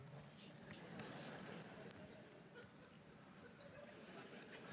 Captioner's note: audience laughs